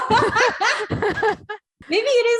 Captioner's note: laughing